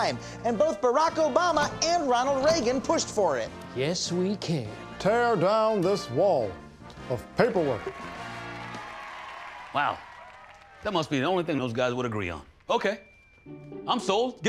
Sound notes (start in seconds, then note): 7.4 cheering and applause